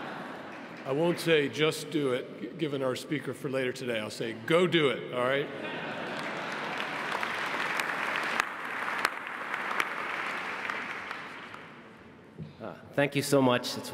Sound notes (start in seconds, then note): 5.9 audience applauding